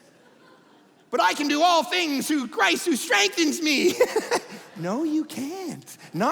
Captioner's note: laughing